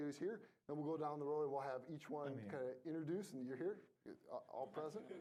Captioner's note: laughing